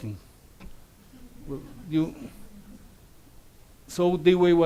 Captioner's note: audience laughs